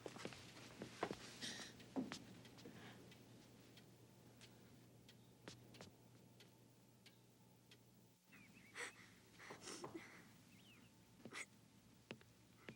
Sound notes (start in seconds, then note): 8.8 Caddie crying